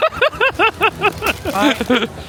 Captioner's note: laughing